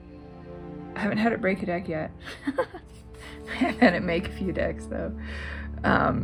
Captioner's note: laugh